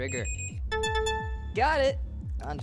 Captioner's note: computer Beeps